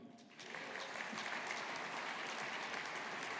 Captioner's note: audience applauding